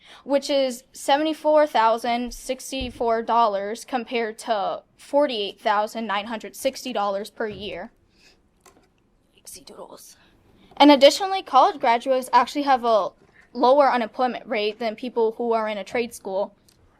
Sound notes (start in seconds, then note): 9.5 chatters